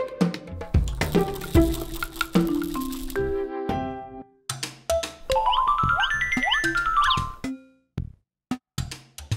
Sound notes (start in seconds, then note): 0.9 toy rattling; 5.3 bright bell music